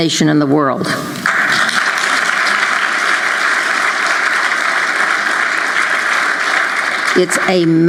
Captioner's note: applause